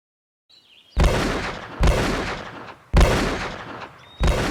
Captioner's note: guns banging